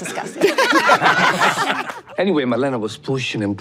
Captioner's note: everyone laughs